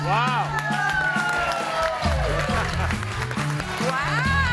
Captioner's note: audience cheering and applauding